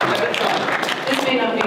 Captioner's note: audience applause